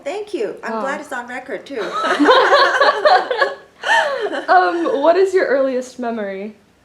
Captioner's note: all laugh